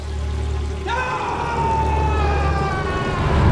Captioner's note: screams